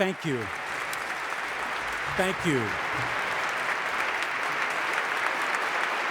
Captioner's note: audience applauding